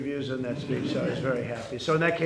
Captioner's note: laughter